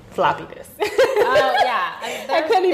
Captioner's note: laughing